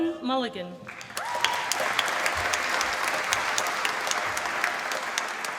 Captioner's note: applause